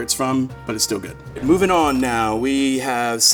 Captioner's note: bell dinging